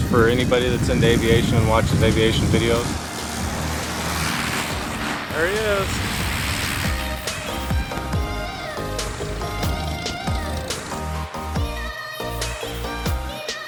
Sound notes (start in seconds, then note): 2.9 plane whizzing; 2.9 soft music; 6.2 plane whizzing; 6.3 soft music